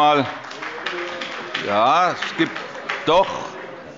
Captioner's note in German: Vereinzelter Beifall – Zurufe